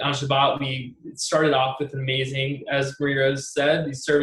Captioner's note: speaking in foreign language